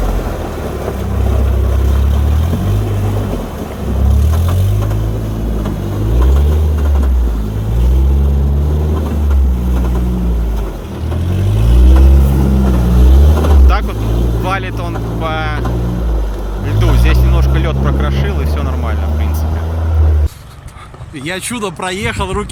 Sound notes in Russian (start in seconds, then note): 0.8 Звук рёва мотора